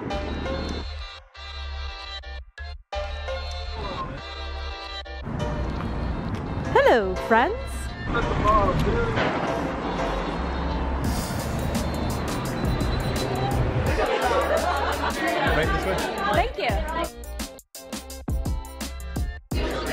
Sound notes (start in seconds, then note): 0.2 lively jazz music; 8.4 lively jazz music; 8.4 pedestrians chattering; 13.8 restaurant goers laughing; 17.5 lively hip hop music